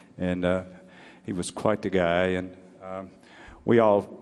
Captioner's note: none